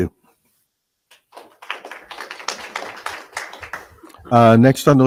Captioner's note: audience applauding